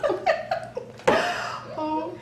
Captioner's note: laughing